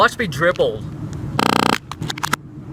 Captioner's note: fart